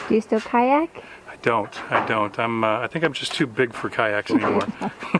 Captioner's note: chuckle